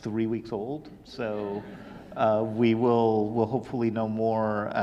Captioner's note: audience laughing